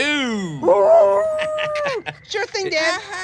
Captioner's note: rose howling